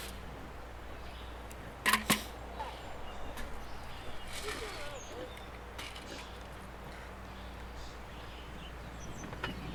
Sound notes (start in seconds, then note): 5.2 faintly speaking